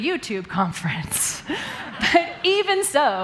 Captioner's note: laughter